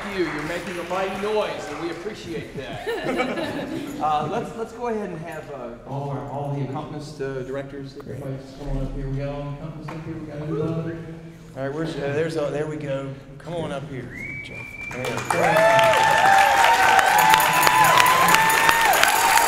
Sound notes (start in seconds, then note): 2.5 choirs laughing; 14.8 applause, cheering; 15.0 joyful percussion